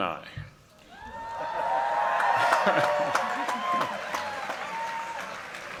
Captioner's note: cheering and applause